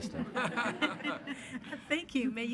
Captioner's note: attendees laughing